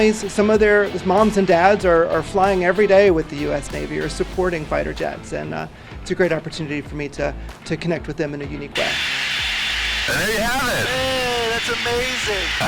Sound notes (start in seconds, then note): 8.7 white noise